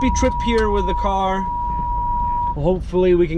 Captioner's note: car beeps